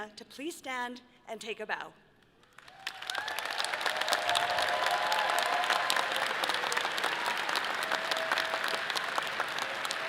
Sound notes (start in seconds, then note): 2.5 audience applauding and cheering